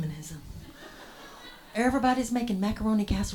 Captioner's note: audience laughs